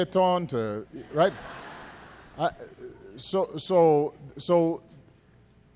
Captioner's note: laughter